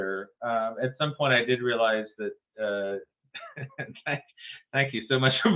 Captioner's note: laughs